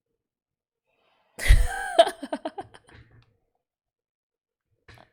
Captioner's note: laughs